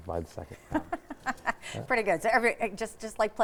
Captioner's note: laughs